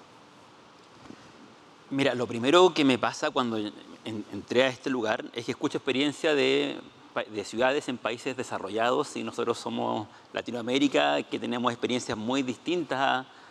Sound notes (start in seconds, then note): 2.0 speaking Spanish